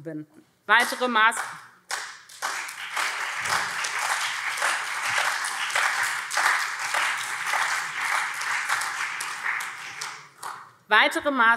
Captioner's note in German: Beifall SPD und CDU